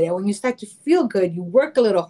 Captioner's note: none